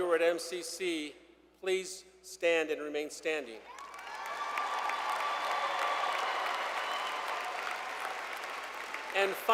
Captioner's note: cheers and Applause